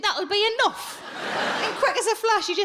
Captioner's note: audience laughing